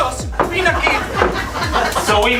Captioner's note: laughs